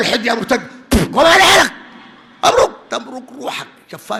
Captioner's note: spits on the mic